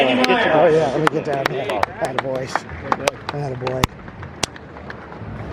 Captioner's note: high fives and clapping